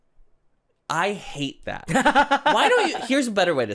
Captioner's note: laughing